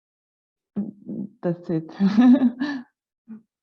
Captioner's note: laughing